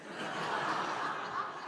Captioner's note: laughter